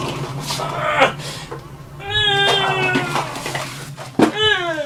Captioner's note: monster grunts